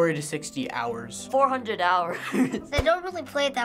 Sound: giggling

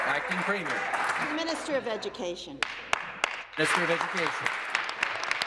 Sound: applause

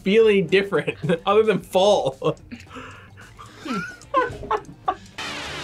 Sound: laughs; tense music

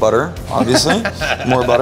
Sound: laughs

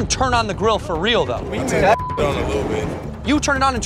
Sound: beep

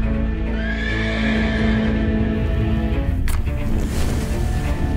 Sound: horse neighing

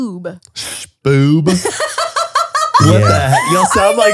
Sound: laughs

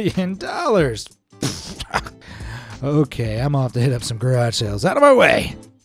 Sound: spluttering

